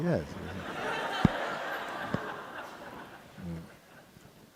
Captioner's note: audience laughs